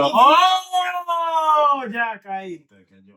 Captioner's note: speaking In Foreign Language